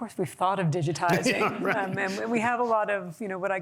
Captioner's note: laughter